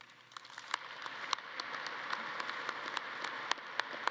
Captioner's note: audience claps